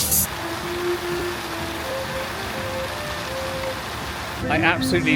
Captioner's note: fountain splashes